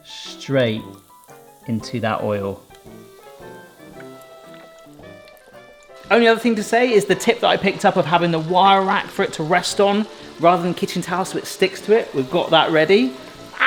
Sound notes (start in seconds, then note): 2.8 light whimsical music; 2.8 oil bubbling